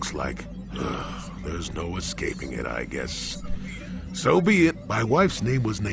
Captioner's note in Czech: povzdech